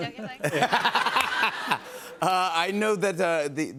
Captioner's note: laughter